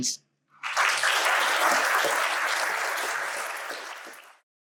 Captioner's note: audience applauding